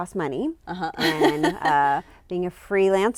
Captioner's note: chuckles